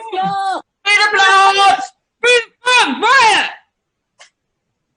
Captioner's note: shouting